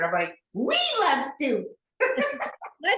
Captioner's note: laughs